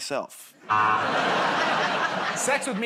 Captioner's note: laughter, buzzer